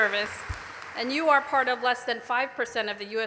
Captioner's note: applause